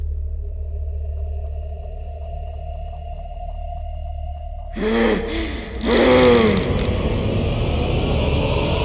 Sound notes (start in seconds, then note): 4.6 ghost sounding